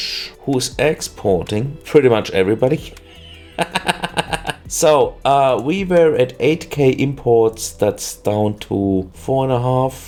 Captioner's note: laughter